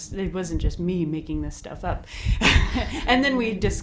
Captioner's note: laughs